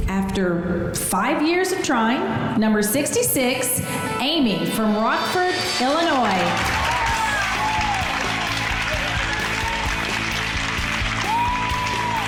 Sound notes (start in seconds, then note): 6.1 girls cheering; 9.0 upbeat music